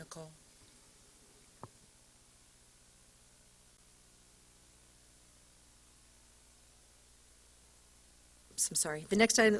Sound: silence

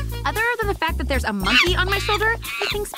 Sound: monkey chattering

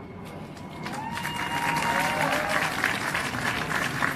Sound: cheers and applause

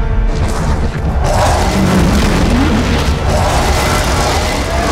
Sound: monster huffs; monster roaring

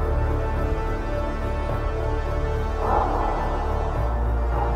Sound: barking

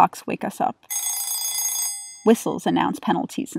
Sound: alarm ringing

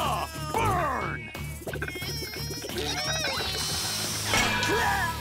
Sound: grunting

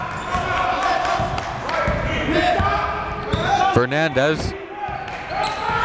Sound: players and crowd yelling

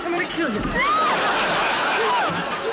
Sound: screaming; audience laughing

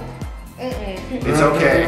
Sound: exclaims non-noncommittally

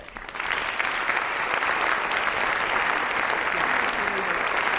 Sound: audience applause

